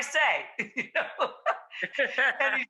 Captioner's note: laughs